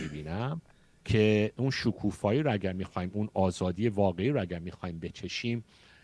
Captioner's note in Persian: گلویش را صاف می‌کند